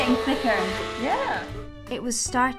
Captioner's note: blender whirring